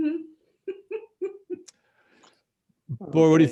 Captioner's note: laughs